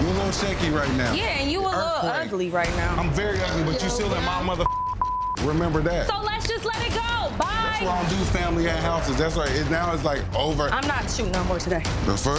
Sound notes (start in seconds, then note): 4.6 beeping